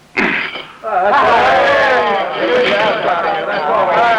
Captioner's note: cheering